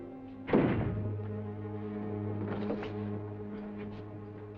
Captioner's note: door clicks